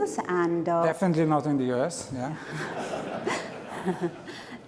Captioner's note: laughter